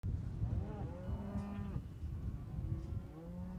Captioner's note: cows moo